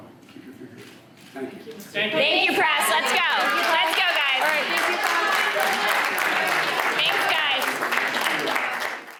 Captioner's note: applause